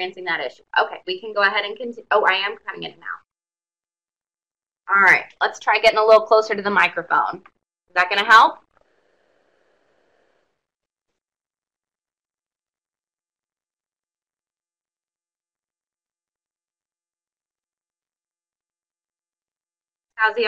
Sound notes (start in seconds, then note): 12.4 brief silence